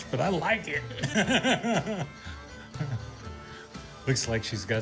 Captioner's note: laughs